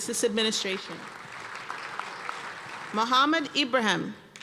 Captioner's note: applause